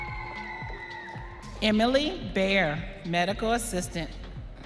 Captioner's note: audience cheering